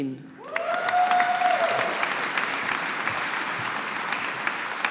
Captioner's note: audience applauding